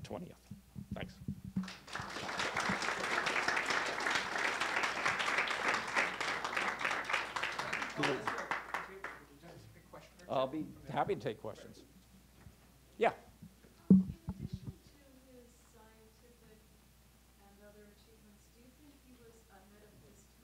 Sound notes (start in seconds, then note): 1.6 clapping